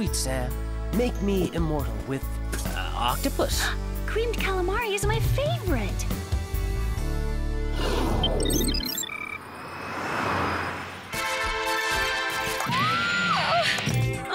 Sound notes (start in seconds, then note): 7.8 computer beeping; 10.6 passing traffic